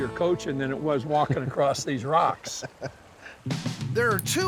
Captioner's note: laughing